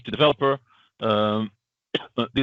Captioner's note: coughs